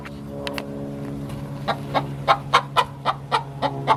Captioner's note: clucking... lots of clucking